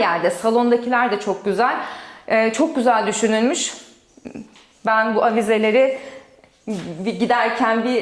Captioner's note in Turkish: boğazını temizler